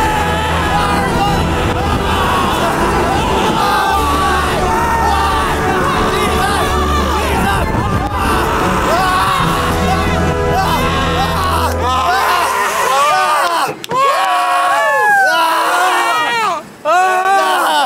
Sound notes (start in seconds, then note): 8.1 screaming dissolves into cheering and gasping